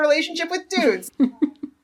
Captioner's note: laughs